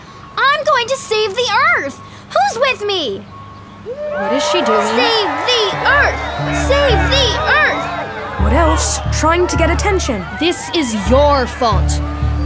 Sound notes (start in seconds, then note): 4.3 crowd cheering; 6.8 chanting